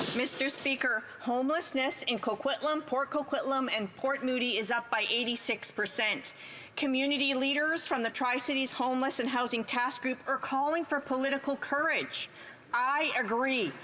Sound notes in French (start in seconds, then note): 2.7 voix de l'interprète